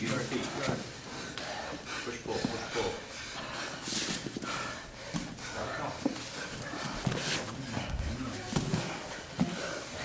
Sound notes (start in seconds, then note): 3.6 heavy breathing